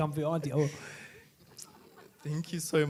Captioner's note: laughing